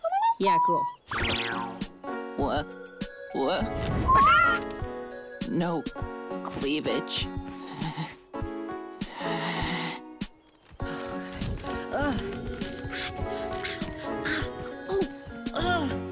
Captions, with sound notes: Yeah cool. Wha...wha... No cleavage... (sighs) (pants and whispers) Oh god... Oof... Hot! Ow! Ooh! Uhh!